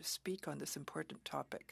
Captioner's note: speaking French